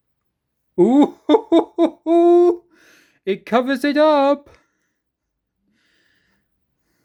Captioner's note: chuckles